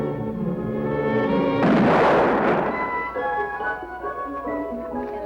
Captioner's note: gunshot